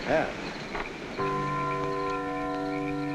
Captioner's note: clock chiming